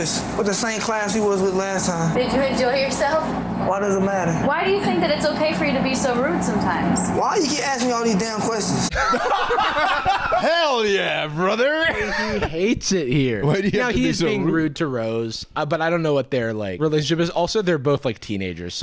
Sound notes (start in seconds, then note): 8.9 laughter